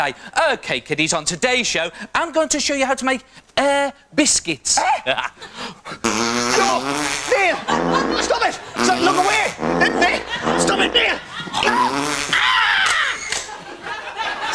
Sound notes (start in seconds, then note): 4.9 laughs; 6.0 Ant and Neil starts farting again; 12.7 their picture gets taken and crowd laughs